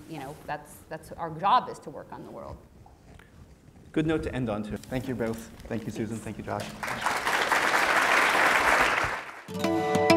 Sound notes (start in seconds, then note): 6.5 applause